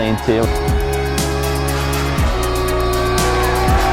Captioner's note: cheers